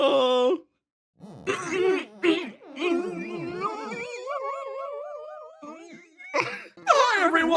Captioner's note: Pained Ganglion Noises